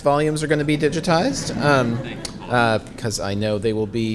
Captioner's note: audience chuckling